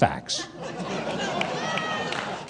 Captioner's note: audience laughs